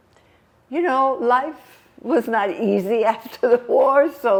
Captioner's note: lauhging